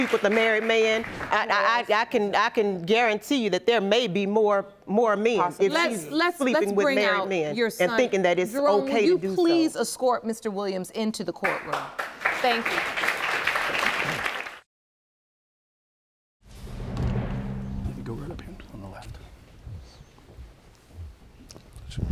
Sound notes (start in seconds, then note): 11.4 audience applauding